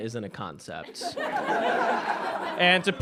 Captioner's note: audience laughs